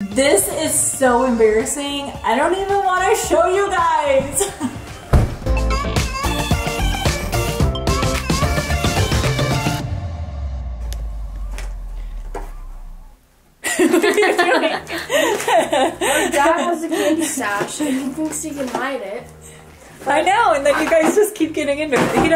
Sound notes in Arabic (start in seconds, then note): 5.6 موسيقى مبهجة; 13.6 يضحكان